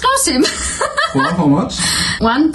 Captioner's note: laughing